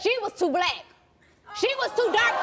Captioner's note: audience yelling